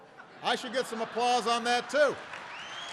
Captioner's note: applause